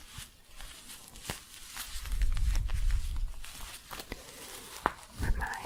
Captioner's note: scratchy shuffling